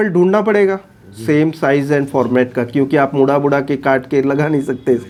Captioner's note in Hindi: नाक से की जाने वाली आवाज़